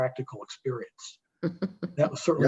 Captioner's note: laughing